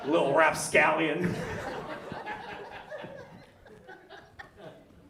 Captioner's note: audience laughs